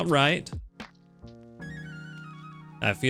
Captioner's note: siren blaring